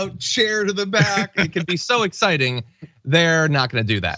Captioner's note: laugh